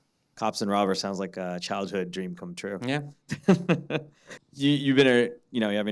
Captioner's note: laughing